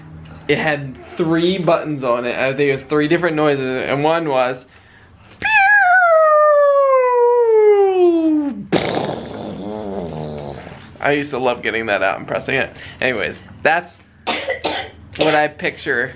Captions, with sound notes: it had three buttons on it, I think it was three different noises and one was... [mimics crash and explosion] I used to love getting that out and pressing it. Anyways, that's what I picture...